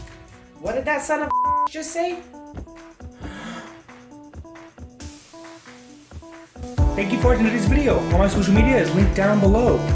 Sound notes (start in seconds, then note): 3.1 gasp